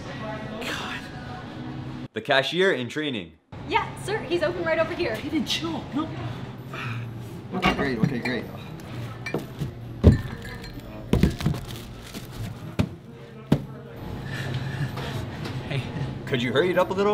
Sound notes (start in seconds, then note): 9.2 bottles clank; 12.2 groceries clatter